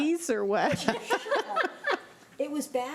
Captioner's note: laughing